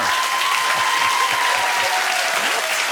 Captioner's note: cheers and applause